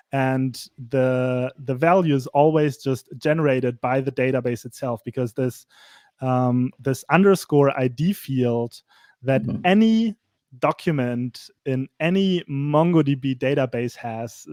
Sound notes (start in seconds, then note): none